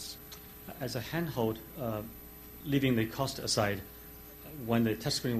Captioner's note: voiceover